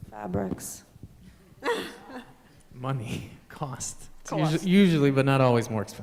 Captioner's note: laughter